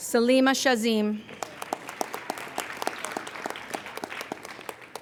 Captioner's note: applauding